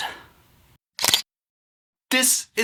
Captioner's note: camera click